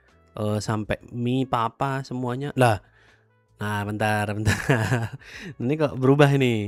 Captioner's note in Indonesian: tertawa